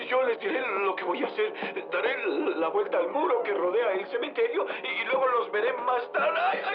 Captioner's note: gasps